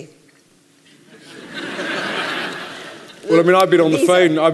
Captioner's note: laughter